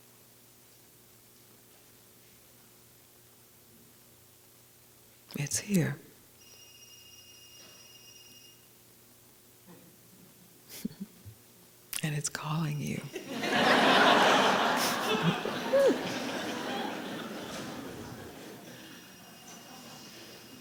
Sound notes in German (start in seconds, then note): 6.4 Ein Telefon klingelt im Hintergrund; 13.1 Gelächter